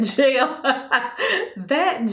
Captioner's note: laughs heartily